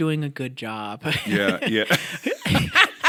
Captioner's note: laughter